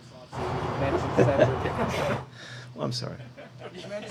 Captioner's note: laughs